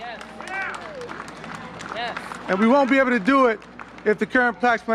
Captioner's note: applause